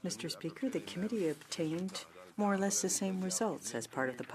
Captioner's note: speaking French